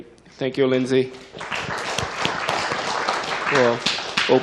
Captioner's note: applause